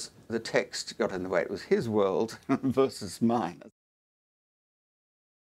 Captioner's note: laugh